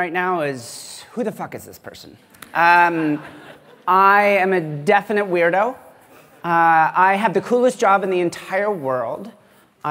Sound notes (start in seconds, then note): 2.9 laughter